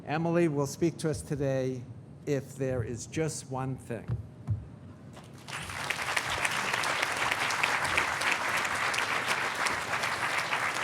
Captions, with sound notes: Emily will speak to us today, if there is just one thing. (audience applauding)